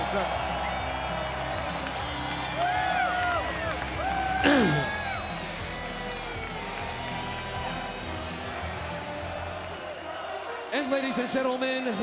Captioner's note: applause